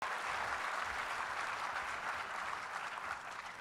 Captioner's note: audience claps